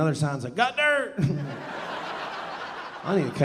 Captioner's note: audience laughing